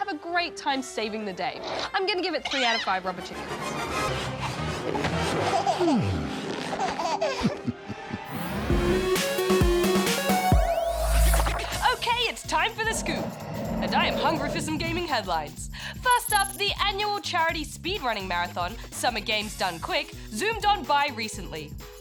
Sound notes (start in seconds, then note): 6.5 baby giggles; 11.1 low growling